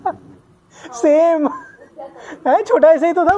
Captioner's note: laughing